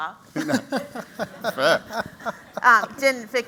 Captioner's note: laughter